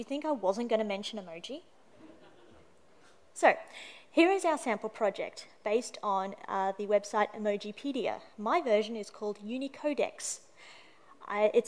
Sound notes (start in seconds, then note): 2.0 laughter